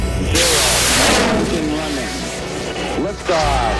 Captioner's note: rocket launching